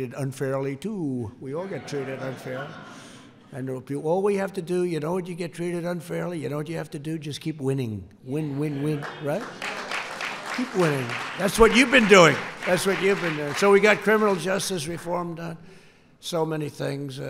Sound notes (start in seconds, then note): 1.6 laughter; 8.8 applause